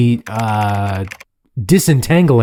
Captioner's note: keyboard clacking